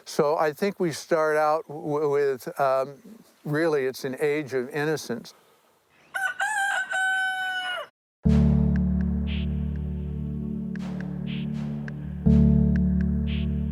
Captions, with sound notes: So I think we start out with really, it's an age of innocence. (crowing) (dramatic music)